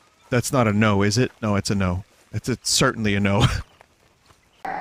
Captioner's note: laugh